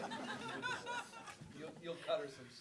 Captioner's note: everybody laughing